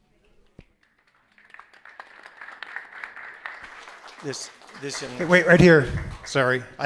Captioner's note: applause